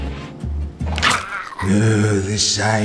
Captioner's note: zombie rattle